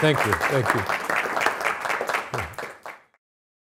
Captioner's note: audience applauding